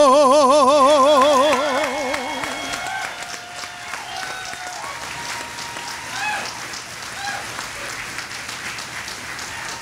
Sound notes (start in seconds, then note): 0.8 audience applauding